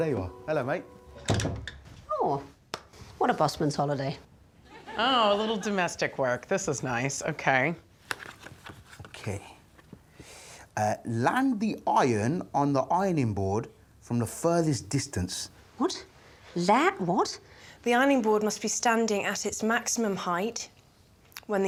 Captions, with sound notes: Oh, there you are, hello, mate. -[door thunking] -Aww, what a busman's holiday. Oh, a little domestic work, this is nice, okay. -[envelope rustling] -Okay, "land the iron on the ironing board from the furthest distance." What? Land-- what? "The ironing board must be standing at its maximum height